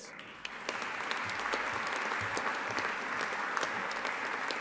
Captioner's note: audience applauding